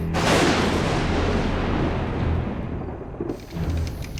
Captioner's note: thunder crashing